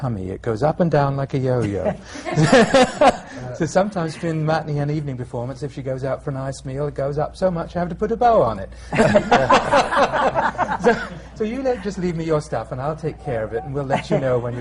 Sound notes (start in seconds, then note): 1.6 laughter; 8.9 laughter